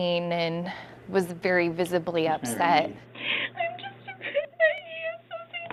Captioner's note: crying